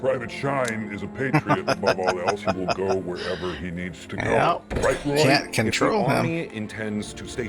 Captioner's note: laughing